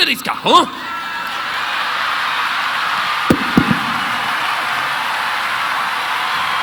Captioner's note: audience cheering; audience applauding